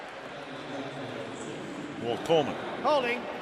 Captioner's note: pa announcement